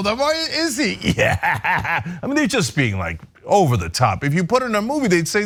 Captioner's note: laugh